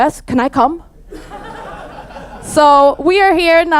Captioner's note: audience laughs